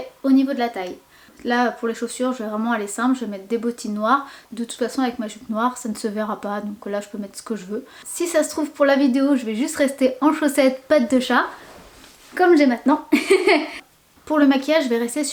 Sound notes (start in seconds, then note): 13.1 ahahah